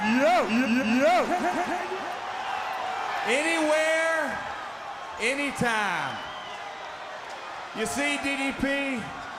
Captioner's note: crowd chatter